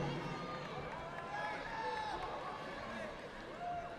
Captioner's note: audience applauding